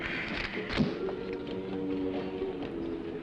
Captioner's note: sighing